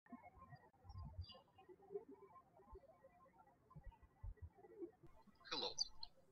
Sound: birds chirping

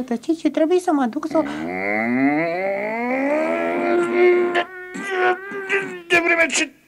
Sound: bursts out angrily

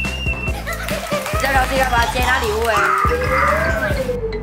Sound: clapping

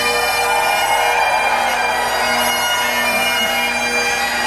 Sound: cheering

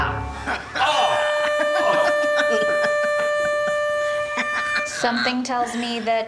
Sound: this new head laughs; Ichabod yells; airhorn

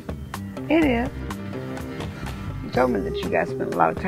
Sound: leopard growls

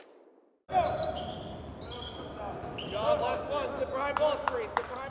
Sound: basketball practice squeaks and communications

